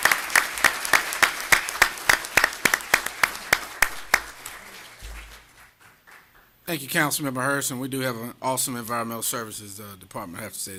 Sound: applause

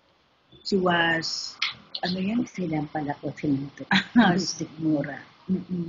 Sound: speaking foreign language

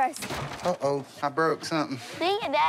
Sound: clatter

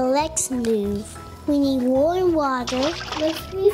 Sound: splashes

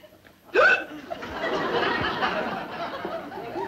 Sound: hiccups

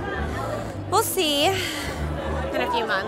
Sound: sighs

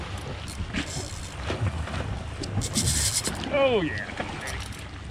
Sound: reel spinning

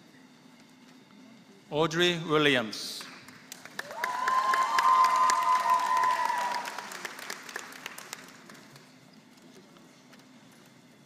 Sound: applause

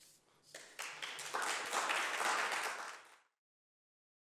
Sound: applause

